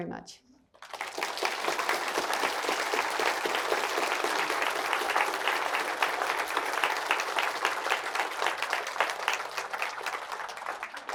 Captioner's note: applause